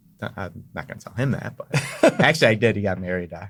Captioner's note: laughs